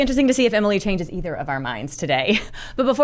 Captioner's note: laughs